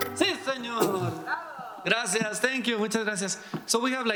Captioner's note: speaking in foreign language